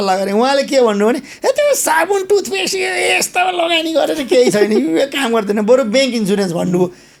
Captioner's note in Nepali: हास्य